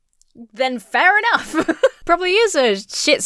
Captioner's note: laughs